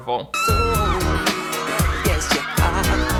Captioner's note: girls screaming